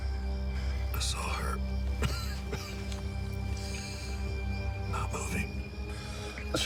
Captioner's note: coughs